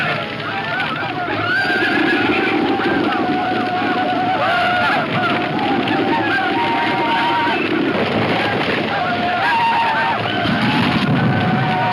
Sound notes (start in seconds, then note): 2.5 horse hooves pounding; 2.5 horses neighing